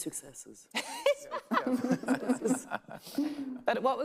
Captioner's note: all laughing